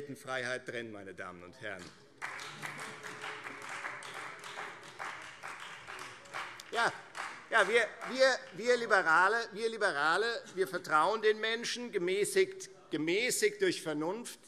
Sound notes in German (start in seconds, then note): 4.1 Beifall Freie Demokraten